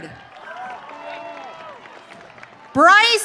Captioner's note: audience cheering